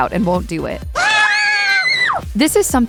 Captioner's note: screams